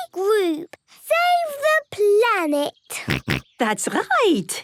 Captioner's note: snorts